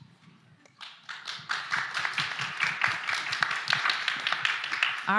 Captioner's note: applause